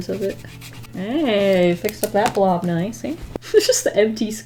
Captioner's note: laughs